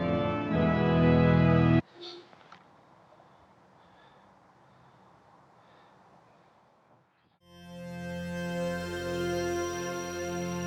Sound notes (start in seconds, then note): 3.0 Andrew gasps; 7.4 soft bright music